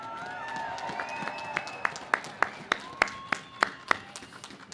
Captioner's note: audience cheers